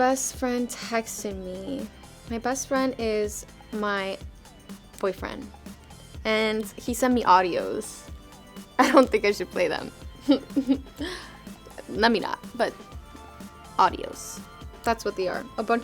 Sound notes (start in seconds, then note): 10.1 laughing